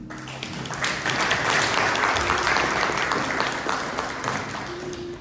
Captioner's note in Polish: głośne brawa